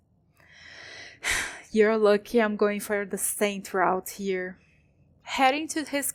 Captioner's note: sigh